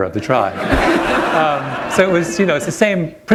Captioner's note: laughter